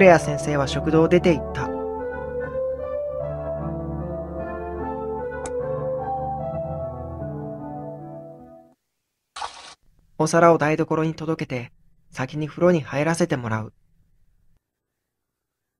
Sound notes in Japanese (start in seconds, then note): 9.4 水しぶきの音：パシャ